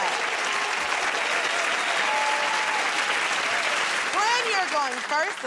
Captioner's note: cheers and applause